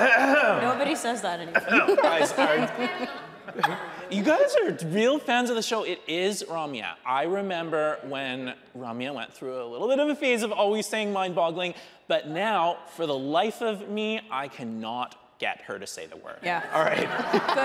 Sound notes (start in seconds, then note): 0.0 clears throat; 1.5 hosts laughing; 1.5 audience laughing